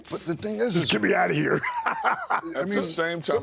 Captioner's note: laughs